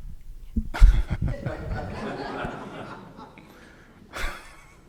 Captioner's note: audience laughing